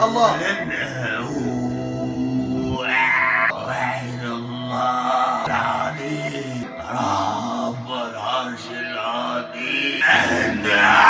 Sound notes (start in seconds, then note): 2.8 Jinn grunts; 9.7 Jinn grunts